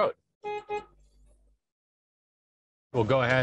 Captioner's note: truck horn honking